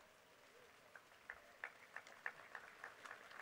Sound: applause

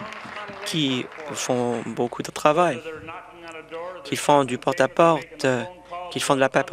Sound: some Applause

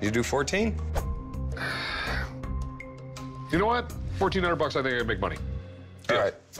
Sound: sighs

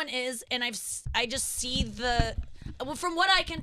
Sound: bumping mic

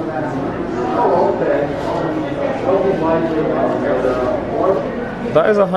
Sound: people chattering

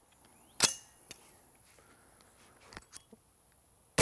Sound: gun cocking

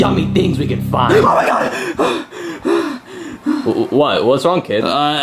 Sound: panting

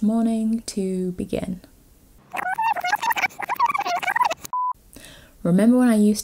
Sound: rewind effect

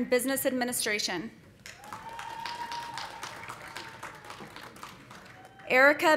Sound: audience applauding; audience cheering

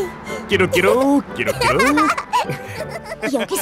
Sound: imitating seagulls

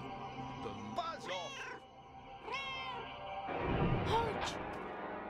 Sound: Hodge meows; Hodge meowing

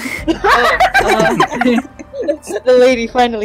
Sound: laughter

